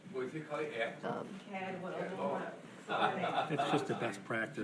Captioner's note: audience chattering